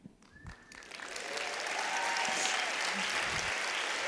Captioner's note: applause